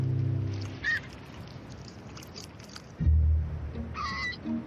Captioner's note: waves crashing; soft dramatic music